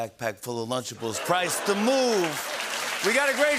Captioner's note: new York accent; laughter and applause